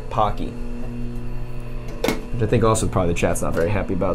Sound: machine whirring continues

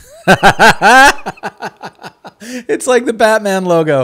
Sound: laughing

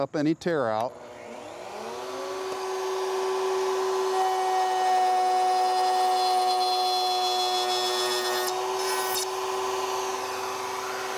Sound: saw revving

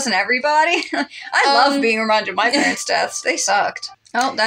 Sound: chuckle; laugh

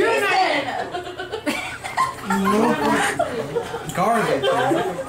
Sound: laughter

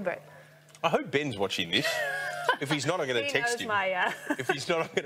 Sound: KK laughs

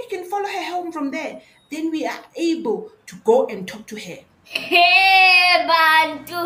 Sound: laughs

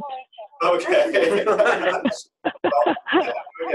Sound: laughter

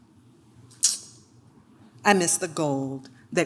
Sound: clicks

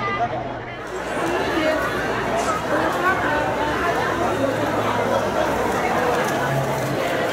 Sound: general crowd sounds, normal speed, no dialogue

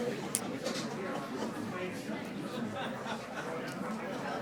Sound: group chattering

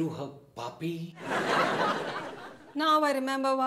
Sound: audience laughs

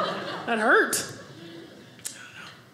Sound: audience laughing

